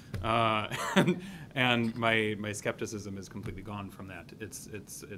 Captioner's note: laughs